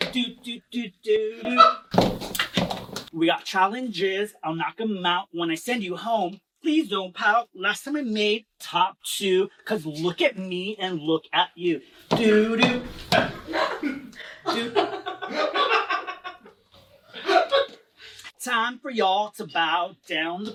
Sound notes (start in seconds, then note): 1.4 laughs; 3.1 singing; 12.5 people chuckling; 15.4 laughing; 18.4 singing